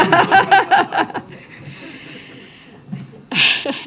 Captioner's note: laughter